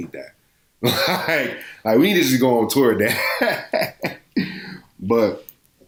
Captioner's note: laughs